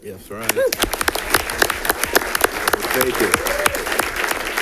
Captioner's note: audience applauding